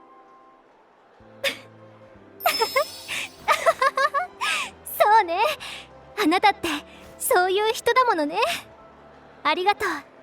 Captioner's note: laughs